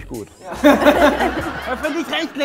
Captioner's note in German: Lachen